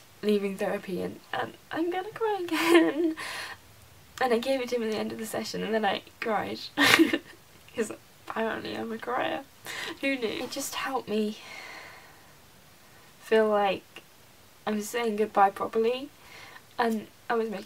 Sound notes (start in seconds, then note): 6.8 laughs